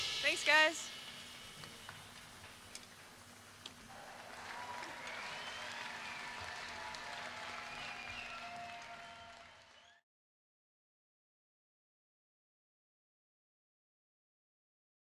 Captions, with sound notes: Thanks guys! [applause]